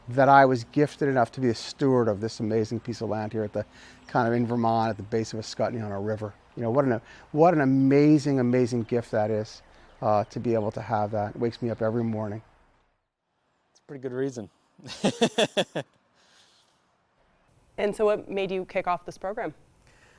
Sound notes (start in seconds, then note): 14.8 laughing